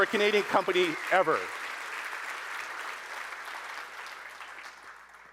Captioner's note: audience applauding